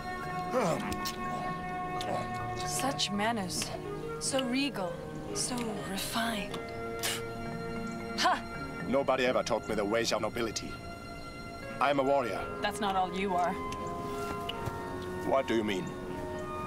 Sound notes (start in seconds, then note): 0.4 grunts; 6.9 spits